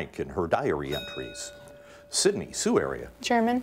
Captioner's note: bell rings